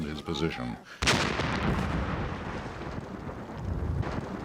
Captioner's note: exploding